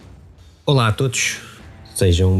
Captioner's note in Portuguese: música de introdução; suspiro